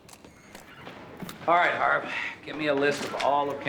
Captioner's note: sighs